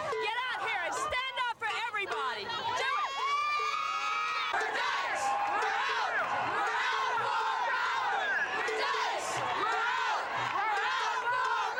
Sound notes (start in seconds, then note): 3.8 cheering, chants